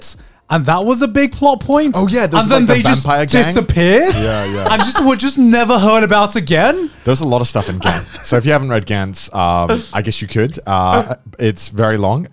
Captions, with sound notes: and that was a big plot point, - Oh yeah, there was then they just disappeared. like the vampire gang. - Yeah, yeah. (laughing) - Just never heard about it again. - There's a lot of stuff in Gantz. So if you haven't read Gantz, I guess you could. It's very long.